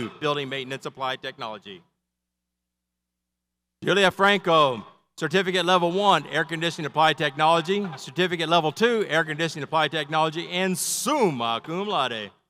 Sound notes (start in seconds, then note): none